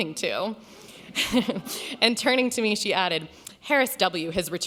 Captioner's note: laughs